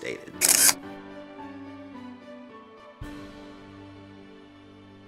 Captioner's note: camera shutter clicks